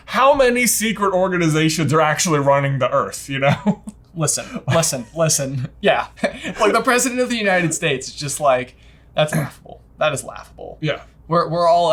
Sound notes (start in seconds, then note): 3.4 chuckles